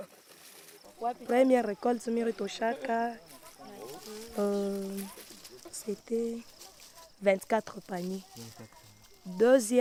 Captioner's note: local language